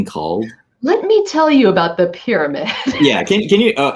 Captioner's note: laughs